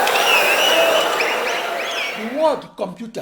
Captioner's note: wild applause and cheering for 22 seconds